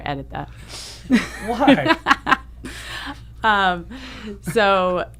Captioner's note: laughs